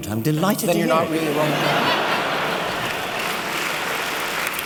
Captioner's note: laughter and applause